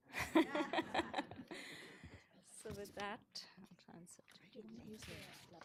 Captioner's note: laughter